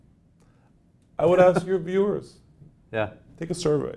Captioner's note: chuckles